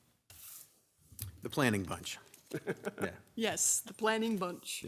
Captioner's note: light laughter